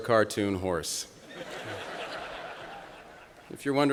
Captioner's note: laughter